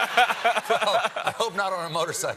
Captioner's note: laughter